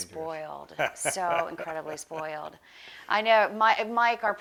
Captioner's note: laughs